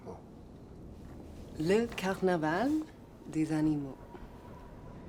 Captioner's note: French spoken audio